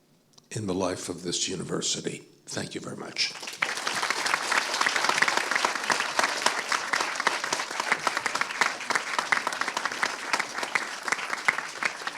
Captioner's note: applause